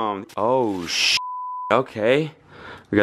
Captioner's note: beep